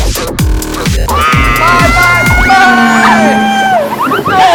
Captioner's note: screams